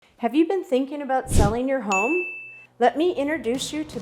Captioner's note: bell ringing